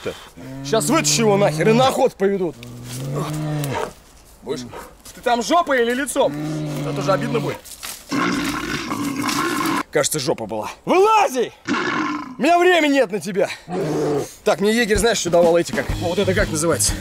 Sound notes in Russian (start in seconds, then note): 8.1 рычание медведя; 13.7 рёв